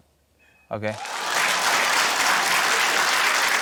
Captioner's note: cheering, applause